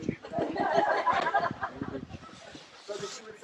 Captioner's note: laughter